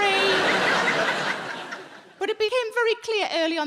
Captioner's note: audience laughing